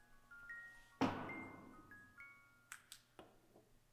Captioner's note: wood bangs; flashlight clicks